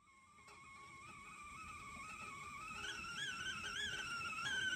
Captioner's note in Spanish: tetera silbando